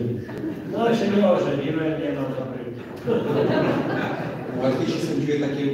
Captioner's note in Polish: Śmiech z sali